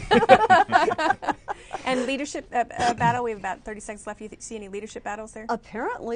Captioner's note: laughter